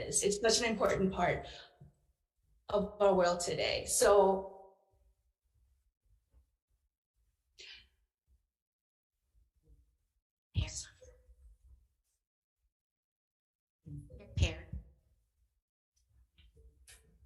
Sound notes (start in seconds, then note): 10.8 faintly speaking